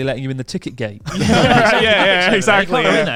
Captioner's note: all laughing loudly